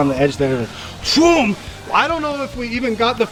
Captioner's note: imitates truck takeoff noise